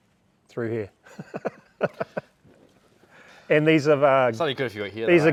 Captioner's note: chuckling